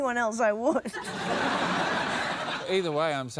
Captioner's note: laughter